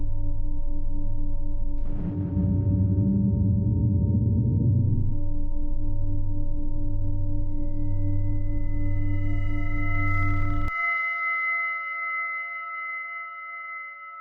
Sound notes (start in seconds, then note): 2.6 low humming continues; 11.4 low humming continues